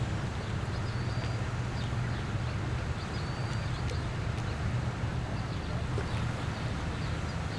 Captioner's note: birds chirping; waves gurgling; birds chirping; waves gurgling